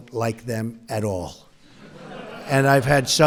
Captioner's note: laughter